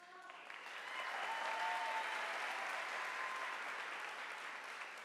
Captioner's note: audience applauding